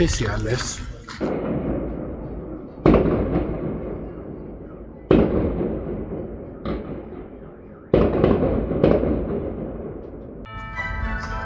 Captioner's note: fireworks